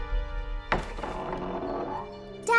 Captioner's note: door creaking